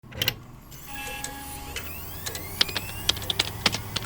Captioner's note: computer starting up; keyboard clacking